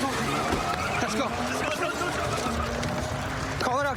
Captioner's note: shouting